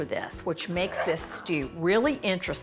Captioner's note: utensil scraping